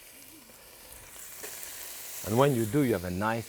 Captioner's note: pan sizzling